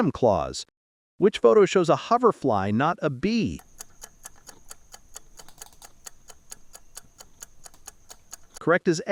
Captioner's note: hoverfly